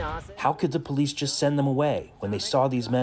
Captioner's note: through translator